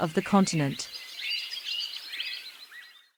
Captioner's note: birds chirping